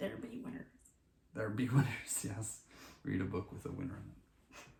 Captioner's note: laughing